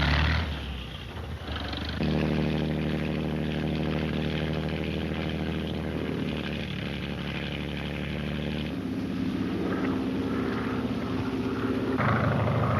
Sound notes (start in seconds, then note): 2.6 boat engine revs; 8.5 plane engine roars